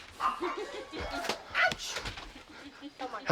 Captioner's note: resident laughing